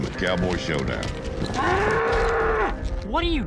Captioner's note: bull mooing wildly